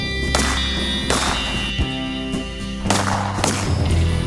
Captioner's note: gun firing; guns firing